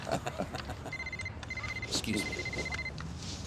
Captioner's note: both laughing; phone rings